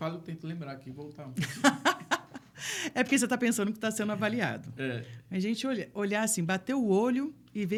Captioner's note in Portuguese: risadas